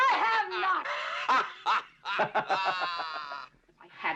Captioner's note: laughing